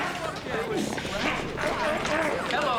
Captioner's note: grunting throughout